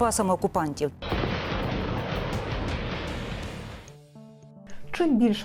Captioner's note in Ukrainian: звук запуску ракети HIMARS